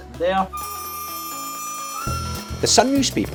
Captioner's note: bells chime